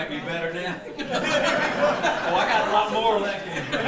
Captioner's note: audience laughing